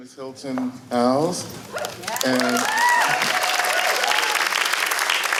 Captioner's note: applause